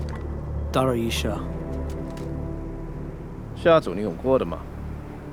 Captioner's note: speaking foreign language